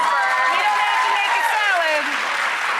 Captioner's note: applauding